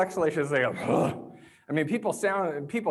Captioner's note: exhales sharply